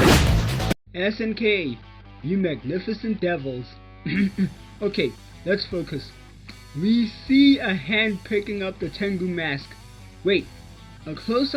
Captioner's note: ahem